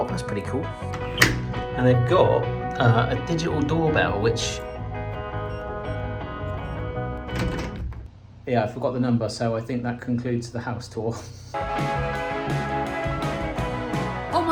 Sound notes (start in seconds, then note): 4.4 buttons beeping; 7.1 lock clanking; 11.5 upbeat music